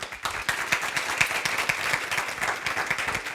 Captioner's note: applause